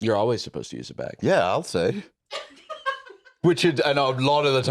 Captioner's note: laugh